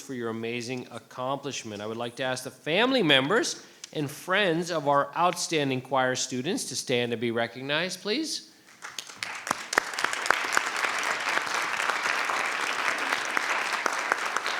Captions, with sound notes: for your amazing accomplishment. I would like to ask the family members and friends of our outstanding choir students to stand and be recognized, please. (crowd clapping)